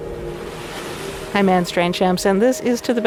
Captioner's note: waves whooshing